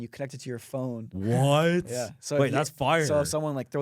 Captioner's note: laughs